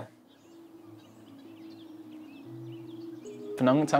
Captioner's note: birds chirping